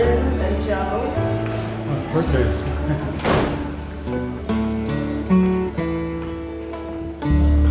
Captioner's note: people chatting; gentle music